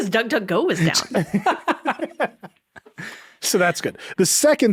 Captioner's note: laughing